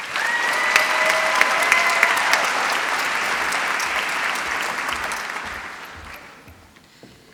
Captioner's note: applause